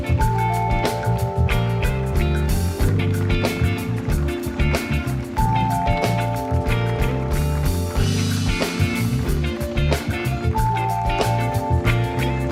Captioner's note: applause